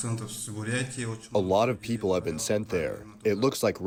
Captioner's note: through translator